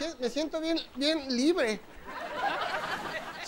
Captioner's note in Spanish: Risas